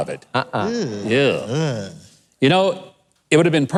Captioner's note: both whining